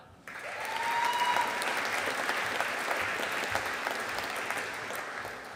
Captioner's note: audience applauding